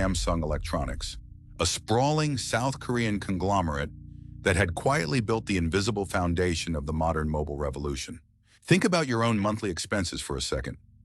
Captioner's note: SFX: deep low rumble